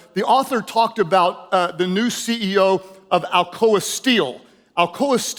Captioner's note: none